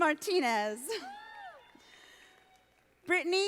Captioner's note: audience applauding